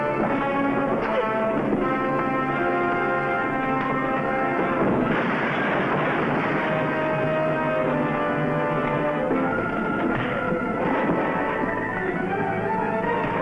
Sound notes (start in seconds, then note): 4.2 crash booming; 6.8 suspenseful music